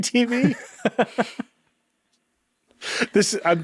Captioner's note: chuckling